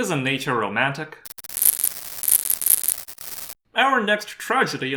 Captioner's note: static